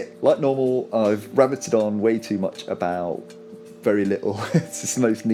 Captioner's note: laughs